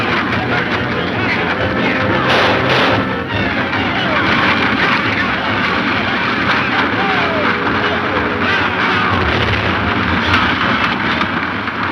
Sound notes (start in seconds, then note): 1.0 men yelling; 2.4 shots fire